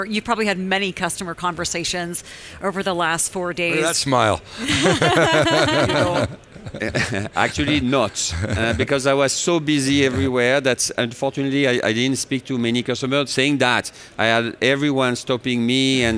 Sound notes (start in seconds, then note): 4.6 interviewer laughing; 4.6 laughing